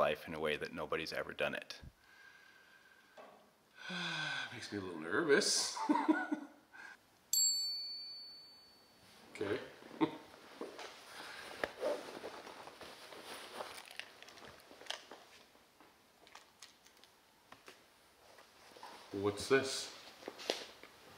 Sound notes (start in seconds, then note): 5.7 laughs; 7.4 electronic ding; 9.9 laughs